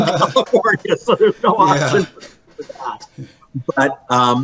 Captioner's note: laughing; audio cutting out